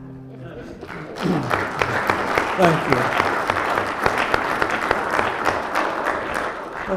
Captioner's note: applause